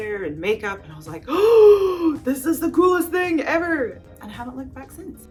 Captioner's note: gasps